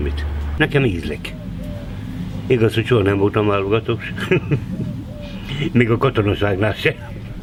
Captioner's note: laughter